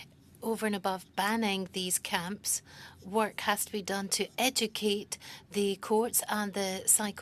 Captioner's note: speaking French